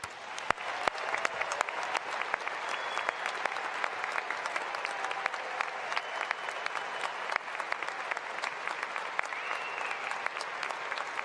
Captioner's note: cheering and applause